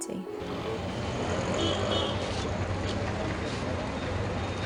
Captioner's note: traffic, busy commute noises